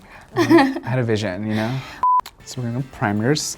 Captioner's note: laughing; beep